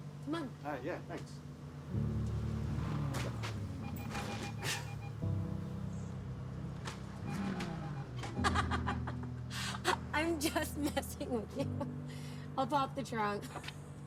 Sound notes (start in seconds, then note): 4.8 Noah laughs; 8.4 Cassie laughing